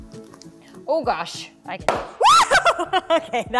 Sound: shrieks

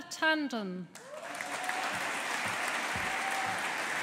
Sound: audience applauding

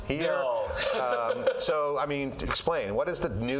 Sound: chuckles

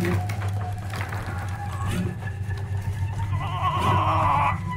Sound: chains rattling; suspenseful music; timer ticking; Carlos grunting; suspenseful music

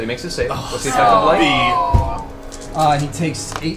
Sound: all groan

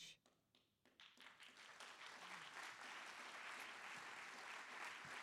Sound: audience applauding

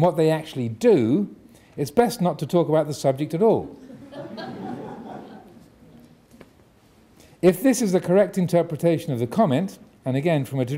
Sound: audience laughing

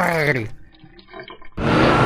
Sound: urine flushing; engine revving

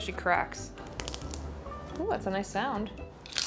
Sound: bacon cracks

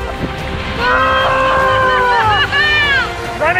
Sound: screaming; laughing

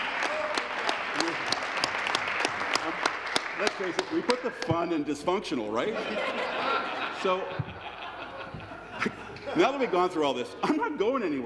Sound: laughter; applause

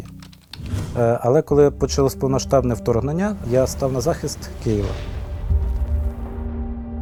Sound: russian

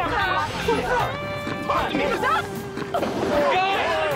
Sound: shouting

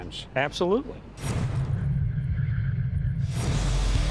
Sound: dramatic transition noises; dramatic music plays

